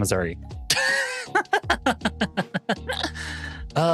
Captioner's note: laughing